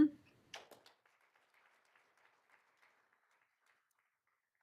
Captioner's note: all applauding